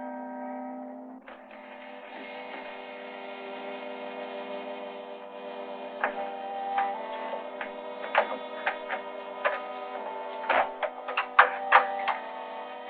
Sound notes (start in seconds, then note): 2.7 suspenseful music continues; 10.4 door creaking